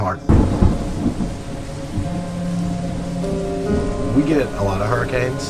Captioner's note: thunder rumbling